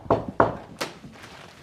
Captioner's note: knocking